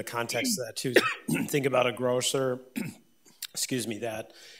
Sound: clears throat

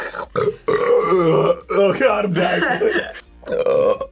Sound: clears throat; burps; both laugh; burps

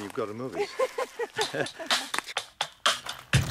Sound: Lindsey laughs; energetic music

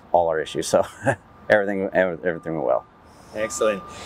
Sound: laughs

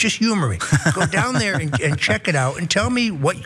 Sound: laugh

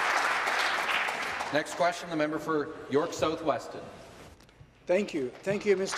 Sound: applause

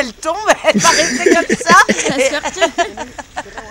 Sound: laughs

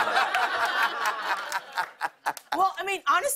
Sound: laughter

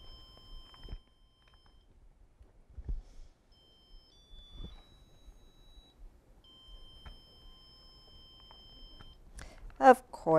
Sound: beeping sounds from controller

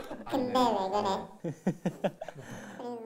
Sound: laughing

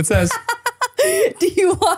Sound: laughing

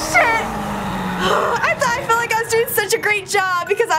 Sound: creature screeches; groans

